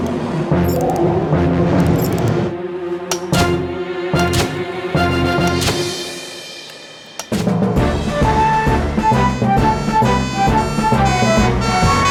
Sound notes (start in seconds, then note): 7.9 heroic Music; 7.9 siren Wails